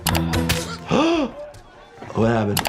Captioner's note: gasps; Thanos grunts